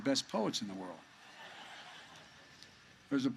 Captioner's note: laughter